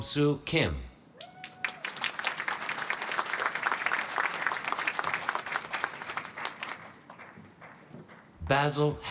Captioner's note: applause